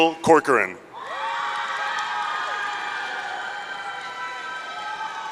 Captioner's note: audience cheering